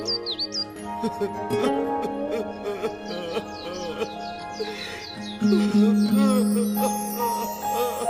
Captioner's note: crying